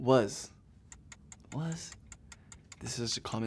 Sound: timer ticking

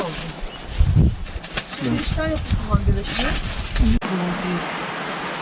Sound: wind sound

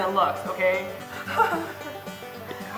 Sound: crying

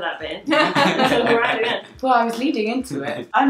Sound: laughing

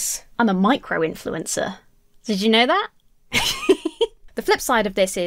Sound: laughs

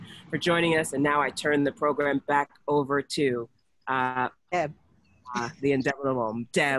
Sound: audio distorts

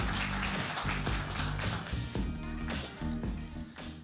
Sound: applause

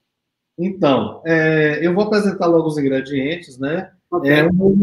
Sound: speaks portuguese

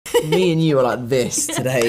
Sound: laughs

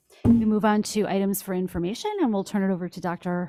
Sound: none

